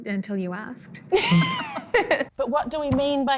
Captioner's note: laughter